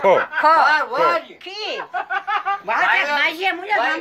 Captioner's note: in Georgian; shouting